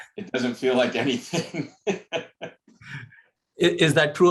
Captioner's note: laughter